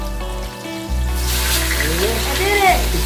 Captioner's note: meat sizzling